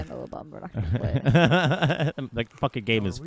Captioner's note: laughing